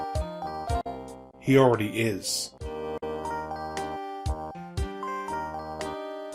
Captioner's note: none